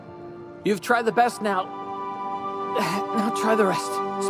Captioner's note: groan